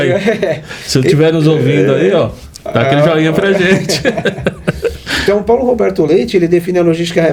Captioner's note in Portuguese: risadas